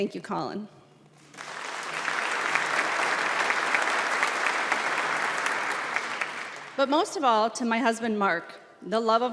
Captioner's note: applause